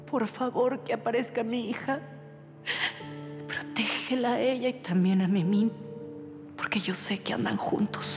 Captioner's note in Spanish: sollozo